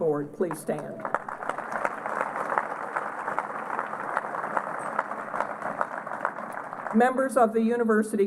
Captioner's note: applause